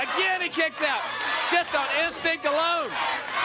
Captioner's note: crowd cheering